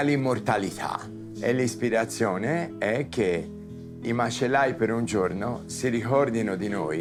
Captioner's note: Dario speaking Italian